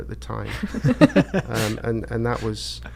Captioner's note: laughing